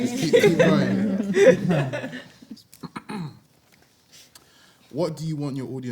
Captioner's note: everyone laughs